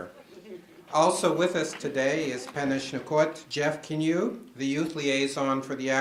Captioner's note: foreign words